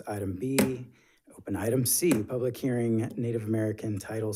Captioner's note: gavel thumping